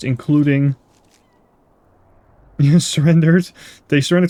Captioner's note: laugh